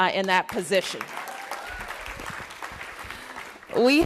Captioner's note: applause